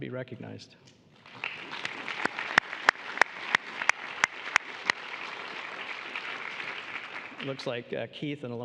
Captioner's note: applause